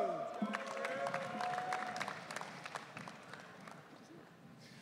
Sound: audience cheering

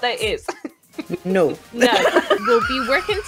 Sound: laughter

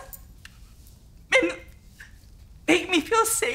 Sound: words catching

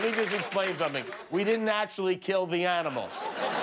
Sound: moans and applause

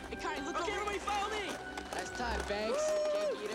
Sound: whooping

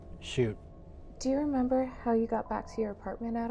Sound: none

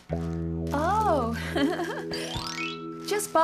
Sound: chuckling

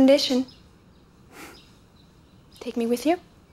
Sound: Sebastien sighs

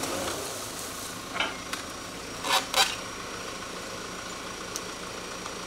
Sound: telehandler engine revving

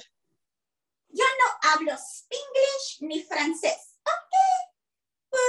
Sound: speaking Spanish

